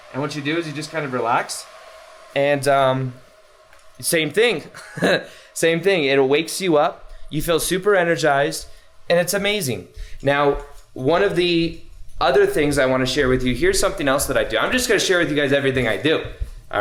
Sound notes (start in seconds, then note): 4.6 chuckles